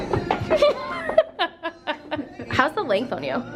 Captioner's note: laughs